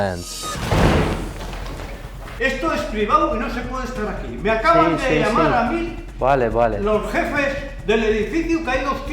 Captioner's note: owner Shouting